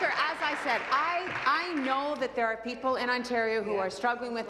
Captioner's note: applause